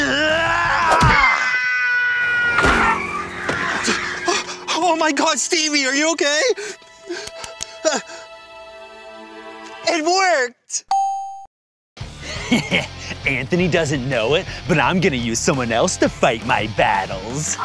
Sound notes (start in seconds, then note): 0.0 screams; 1.1 baguette thuds; 2.5 thuds; 2.5 car whirs; 6.6 soft music; 10.8 check mark dings; 12.1 intense music; 12.2 laughs mischievously